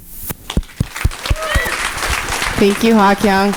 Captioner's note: audience applauding